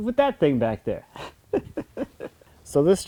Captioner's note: laughing